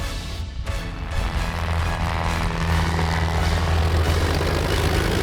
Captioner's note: engine droning